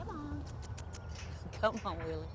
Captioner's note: squeaky kisses